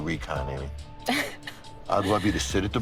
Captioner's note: laughing